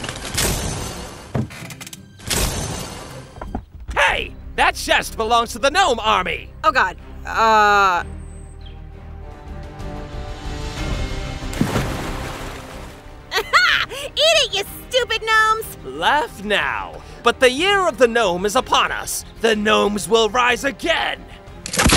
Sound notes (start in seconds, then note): 0.2 metals clanking; 11.4 water splashing